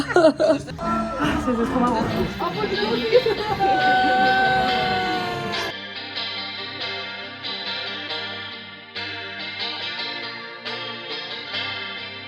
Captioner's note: laughs